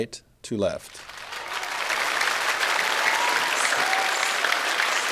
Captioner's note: audience applauding